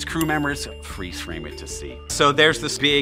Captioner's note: bell dinging